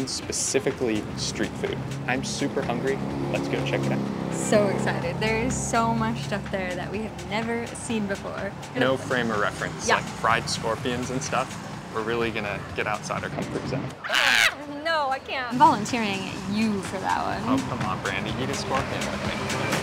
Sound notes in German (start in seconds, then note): 14.0 Geschrei